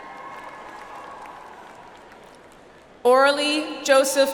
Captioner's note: audience applauds